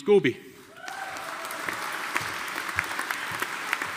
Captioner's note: audience applauding